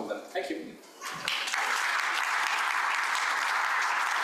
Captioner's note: audience applauding